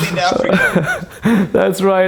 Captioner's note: laughing